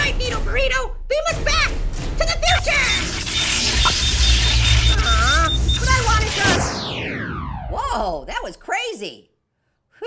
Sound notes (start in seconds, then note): 2.5 rapid beeping and zapping; 7.5 poof!